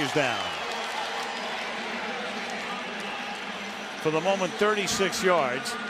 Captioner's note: pa announcement